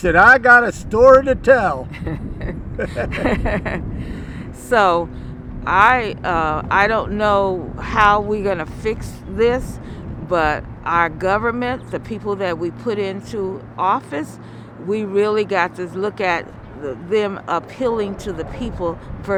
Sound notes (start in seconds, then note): 1.8 laughing